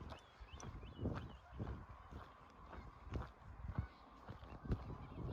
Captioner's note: aquatic birds chattering